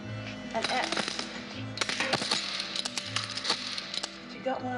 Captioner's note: clattering